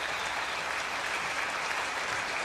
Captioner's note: crowd cheering